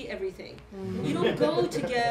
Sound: laughter

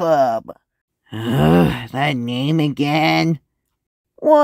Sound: groans

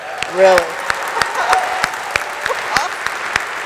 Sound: audience applauding; audience cheering

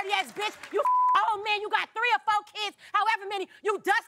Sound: beep

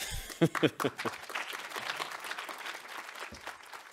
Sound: audience applauds

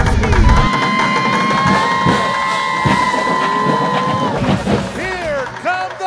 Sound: cheering

